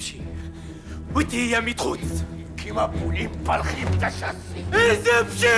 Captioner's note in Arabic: الصوت المنطوق البدوي